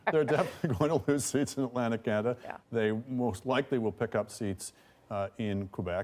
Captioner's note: laughter